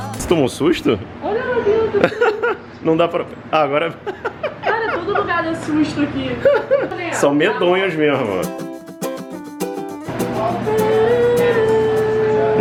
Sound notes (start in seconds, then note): 6.5 laughs